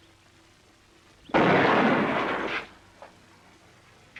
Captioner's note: gunshot